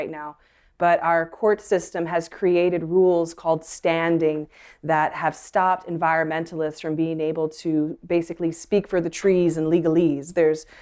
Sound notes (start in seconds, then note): none